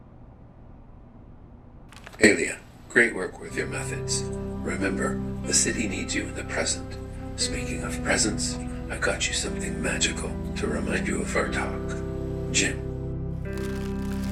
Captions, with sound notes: [Jim's echoed voice] Ailia, great work with your methods. Remember, the city needs you in the present. Speaking of presents, I got you something magical to remind you of our talk. Jim.